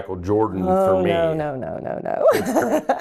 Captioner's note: laughing